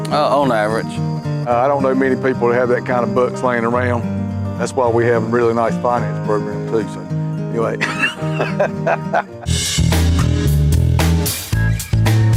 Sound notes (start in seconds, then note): 7.8 laughing; 9.5 upbeat music